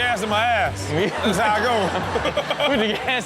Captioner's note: crowd laughs